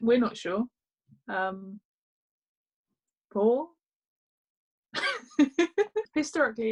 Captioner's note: laughs